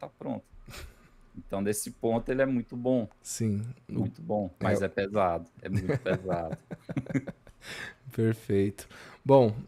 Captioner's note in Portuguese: risadas